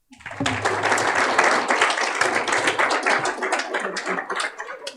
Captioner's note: applause